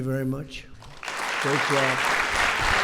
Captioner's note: applause